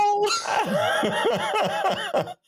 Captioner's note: laughing